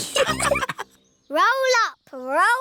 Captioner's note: all laughing